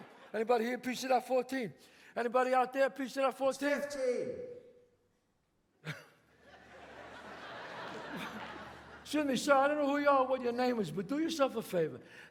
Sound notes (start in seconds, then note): 5.8 chuckles; 6.4 audience laughs